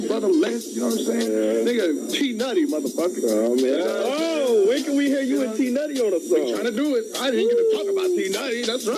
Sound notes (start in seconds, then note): 3.2 people chattering